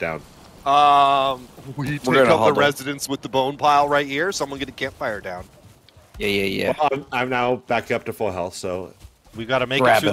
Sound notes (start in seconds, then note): none